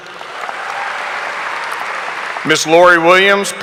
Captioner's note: audience applauding